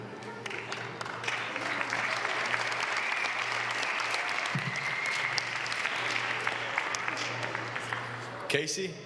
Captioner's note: applause